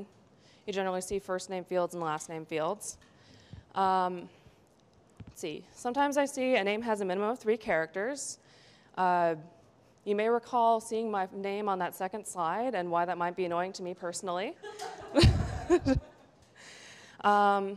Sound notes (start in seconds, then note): 14.6 laughs